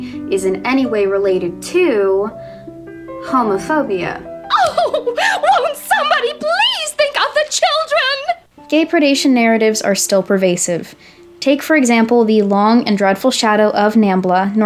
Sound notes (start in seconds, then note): 5.0 weeping